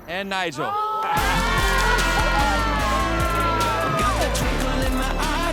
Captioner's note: players cheering